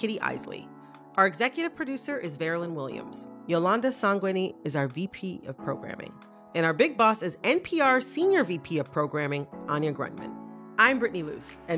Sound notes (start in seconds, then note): none